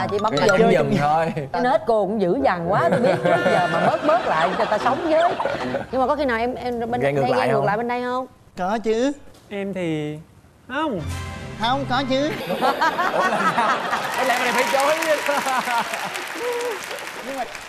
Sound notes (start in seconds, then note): 12.5 laughs; 13.8 applause; 15.6 laughs